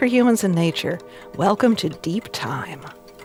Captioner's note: clock ticking softly